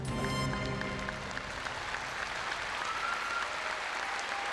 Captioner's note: applause